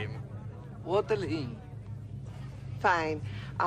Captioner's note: imitating English